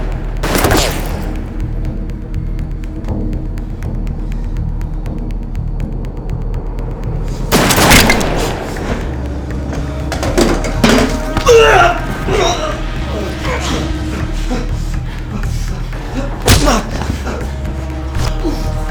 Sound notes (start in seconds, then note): 12.1 Ramsay grunting; 12.1 fists bashing